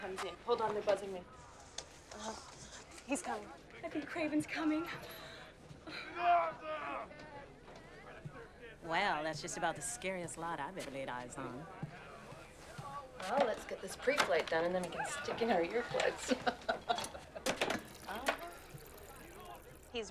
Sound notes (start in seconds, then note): 6.0 shouting